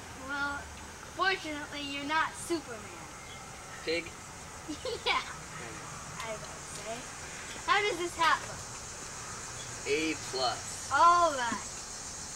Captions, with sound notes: Well, fortunately you're not Superman. Pig? [Laughs] Yeah. I’d say. How does this hat look? >> A-plus. >> Alright.